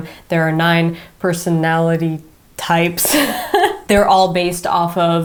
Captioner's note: laughs